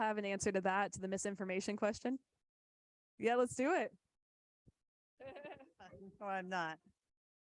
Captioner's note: laughs